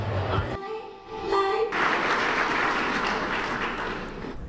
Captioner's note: applause